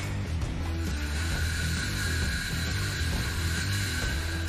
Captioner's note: light rock music; saw whirring; hammer banging